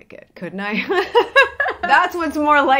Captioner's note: laughs